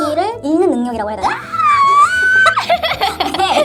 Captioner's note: scream